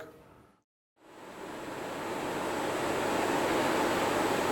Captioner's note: fans humming